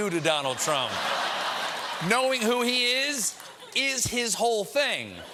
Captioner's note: laughter